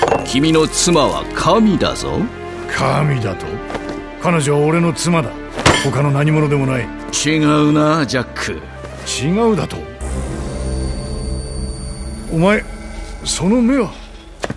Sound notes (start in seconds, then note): 5.5 Jack hits table